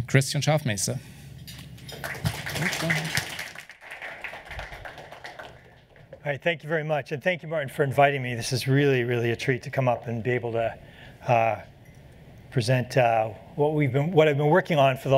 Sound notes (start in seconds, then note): 1.7 applause